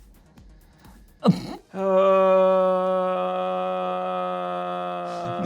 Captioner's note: sustained grunting